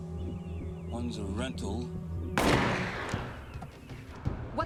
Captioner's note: gunshot